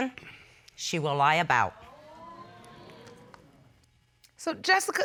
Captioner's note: audience exclaiming